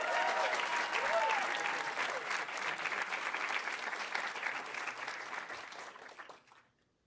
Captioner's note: audience cheering; audience applauding